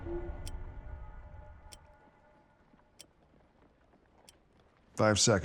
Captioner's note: pocket watch ticking